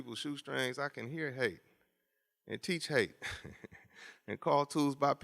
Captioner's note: laughs